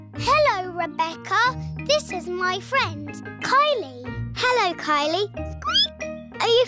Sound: squeaks

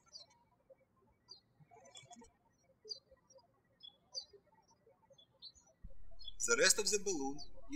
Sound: birds chirping

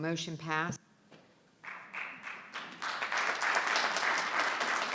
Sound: board clapping

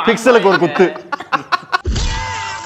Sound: men laugh

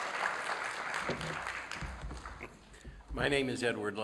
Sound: applause

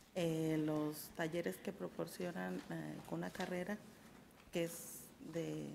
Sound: speaks in a foreign language

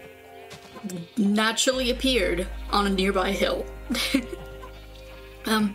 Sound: laughter

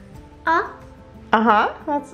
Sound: speaks in foreign language

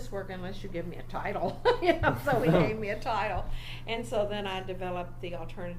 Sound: laughs as if this is obvious

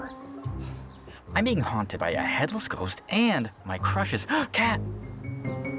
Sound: gasp

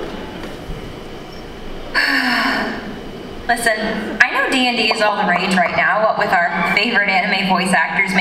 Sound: sigh

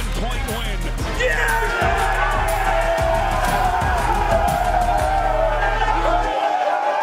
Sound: team cheering

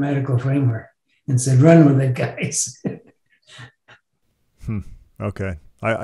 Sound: chuckles

